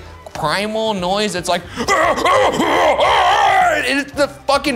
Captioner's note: imitating noise